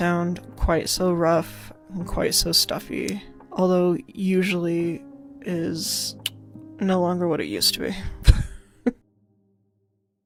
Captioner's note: clicks tongue; laughs